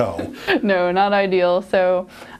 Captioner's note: laughs